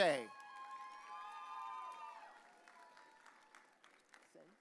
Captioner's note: audience cheering